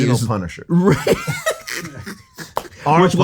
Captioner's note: everyone laughs